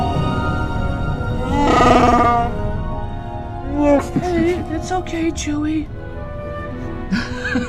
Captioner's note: growl and happy laugh